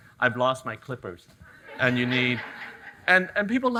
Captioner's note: audience laughing